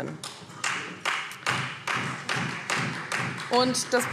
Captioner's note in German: Beifall Freie Demokraten